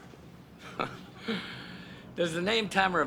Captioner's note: chuckling